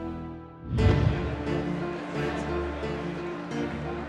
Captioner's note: clamoring